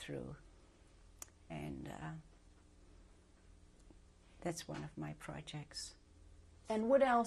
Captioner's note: pauses for 3 seconds